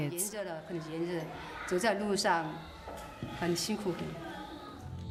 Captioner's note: speaking in foreign language